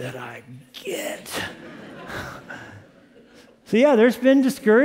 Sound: laughter

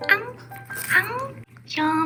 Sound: crunch

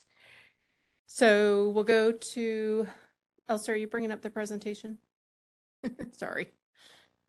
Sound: chuckle

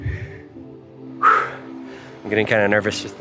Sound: exhales

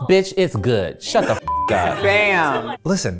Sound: beep

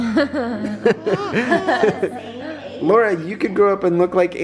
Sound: laughing

